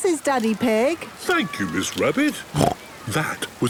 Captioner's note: snorts